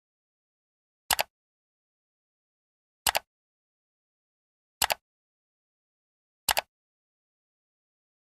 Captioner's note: mouse click sounds